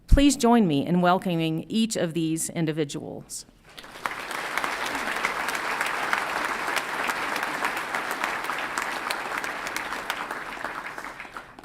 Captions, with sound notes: Please join me in welcoming each of these individuals. (audience applauds)